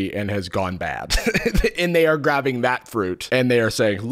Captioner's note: laughs